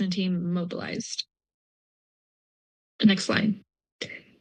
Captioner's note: pause